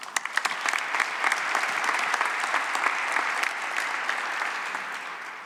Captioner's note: applause